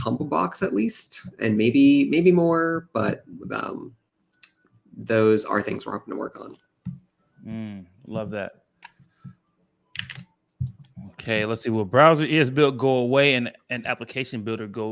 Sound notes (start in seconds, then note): none